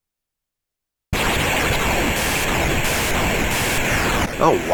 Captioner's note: video game cacaphony